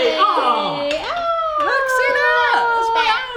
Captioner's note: exclaiming